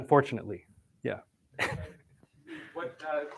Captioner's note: chuckles